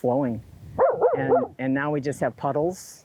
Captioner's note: dog barks